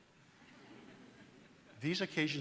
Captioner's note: audience laughs